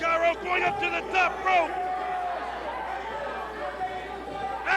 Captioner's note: crowd cheering